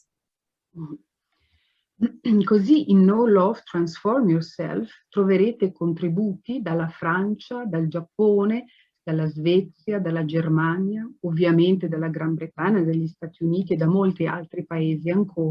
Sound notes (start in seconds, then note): 2.1 speaking Italian